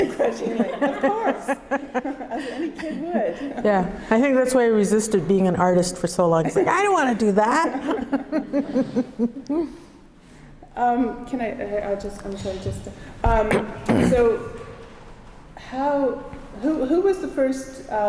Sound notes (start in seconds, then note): 0.0 laughing; 7.5 laughter